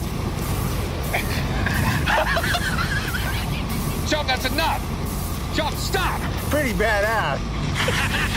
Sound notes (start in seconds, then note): 1.2 laughter